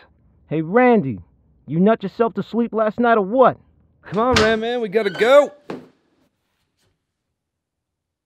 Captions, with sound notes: - Hey, Randy... you nut yourself to sleep last night, or what? [DOOR OPENS] - C'mon Ran Man, we gotta go!